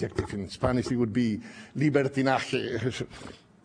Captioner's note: spanish